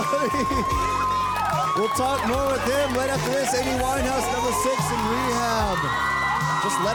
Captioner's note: audience cheering drowns out speaker